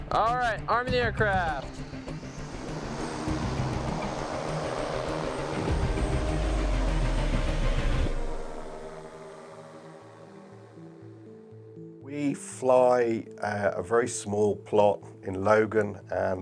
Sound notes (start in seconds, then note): 2.5 drone buzzing